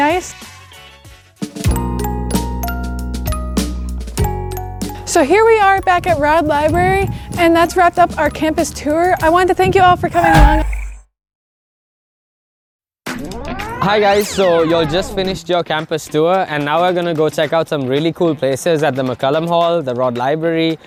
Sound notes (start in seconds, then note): 10.1 screaming sound effect; 10.1 silence